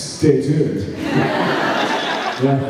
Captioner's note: laughs